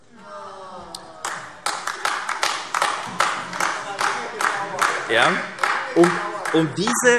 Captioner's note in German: Beifall AfD - Zurufe